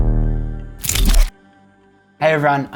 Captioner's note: shutter clicking